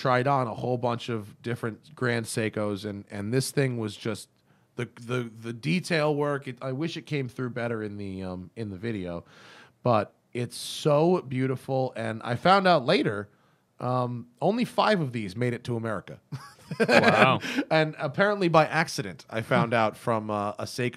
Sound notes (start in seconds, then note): 16.3 laughter